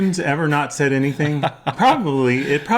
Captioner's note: laughs